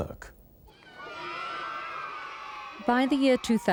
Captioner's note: children cheering